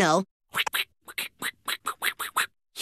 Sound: beatboxing

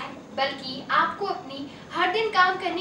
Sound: hindi

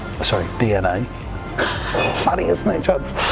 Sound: laughs

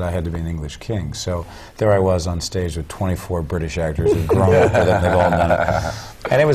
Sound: laugh

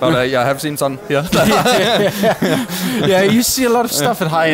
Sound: laughing

